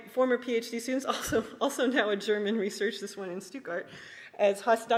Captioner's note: laughs